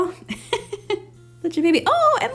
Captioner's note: laughs